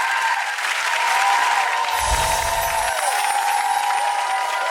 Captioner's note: audience applause